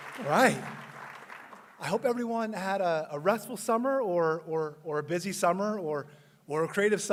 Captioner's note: applause